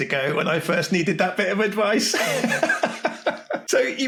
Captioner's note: laughs